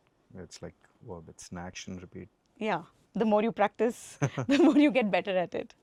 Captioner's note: laughs